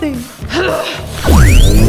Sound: grunting

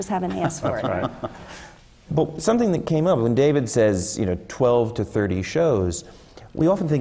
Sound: laugh

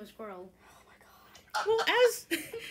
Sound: laughter

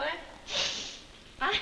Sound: sniffs

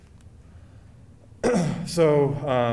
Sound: clearing throat

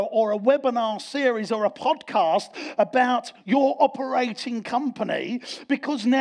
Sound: none

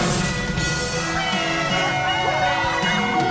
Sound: cheering

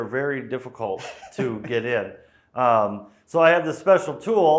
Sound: laughing

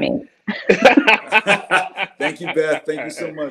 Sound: panel laughs

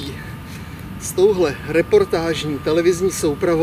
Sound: gasp

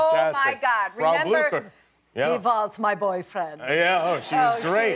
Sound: eastern european accent

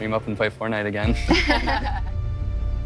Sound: laughing

